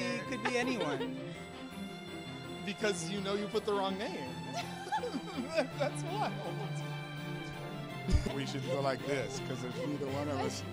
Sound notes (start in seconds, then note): 4.5 both laugh